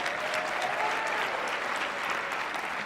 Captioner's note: applause